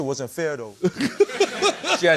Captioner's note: laughter